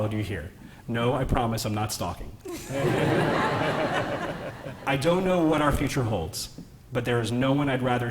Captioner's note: laughter